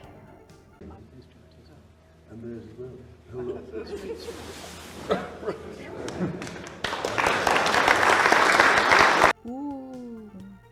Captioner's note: rich people chatting and clapping